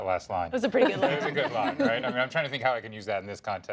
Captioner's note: laughter